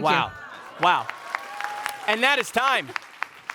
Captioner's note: audience applauding